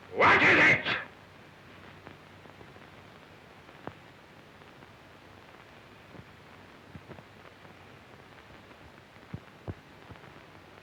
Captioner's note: shouting